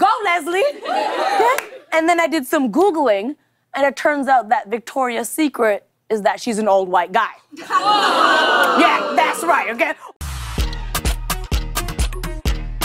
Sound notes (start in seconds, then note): 7.7 audience ohs